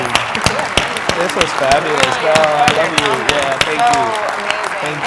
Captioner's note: applause